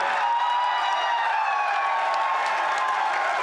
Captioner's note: cheering